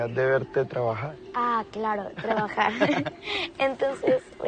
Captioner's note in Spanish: Risas